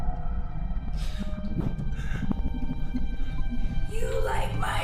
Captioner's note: soft tense music; Clint gasping softly